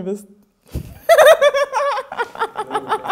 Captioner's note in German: Sie lacht laut